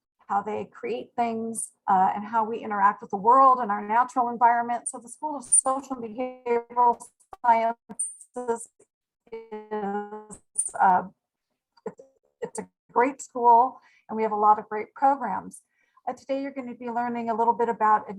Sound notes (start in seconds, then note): 6.2 speech distorting